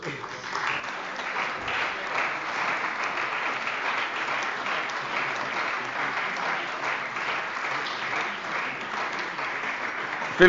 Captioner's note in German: Beifall bei der CDU und dem BÜNDNIS 90/DIE GRÜNEN